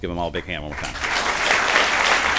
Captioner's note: applause